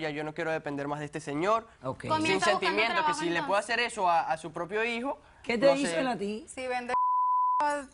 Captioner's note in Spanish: Hablan al unísono